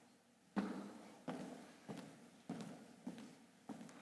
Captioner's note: footsteps tapping